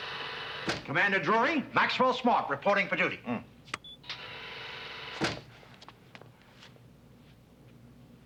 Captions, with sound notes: - Commander Drury, Maxwell Smart reporting for duty. (door swooshes)